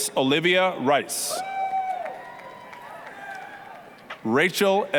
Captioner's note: applause, cheering